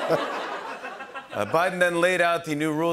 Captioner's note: laughter